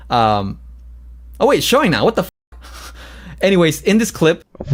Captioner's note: laughs